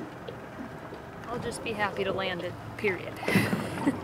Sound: laughing

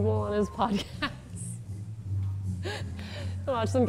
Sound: laughs

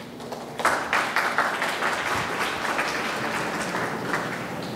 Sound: audience clapping

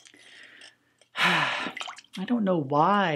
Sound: sigh

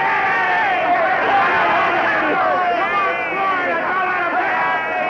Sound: people cheering

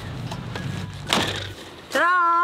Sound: door banging

